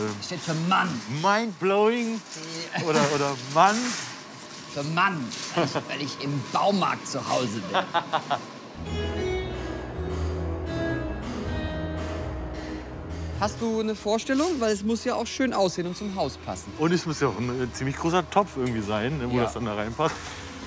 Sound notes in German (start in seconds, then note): 7.5 lacht; 8.7 Entspannte Ladenmusik